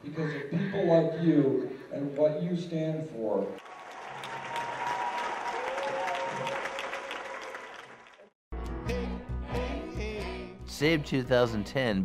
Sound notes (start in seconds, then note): 3.6 applause